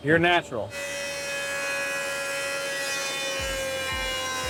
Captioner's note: machine buzzes